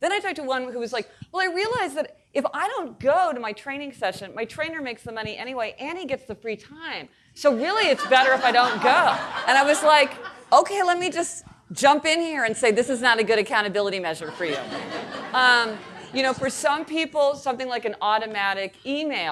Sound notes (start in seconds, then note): 7.7 audience laughing; 14.2 audience laughing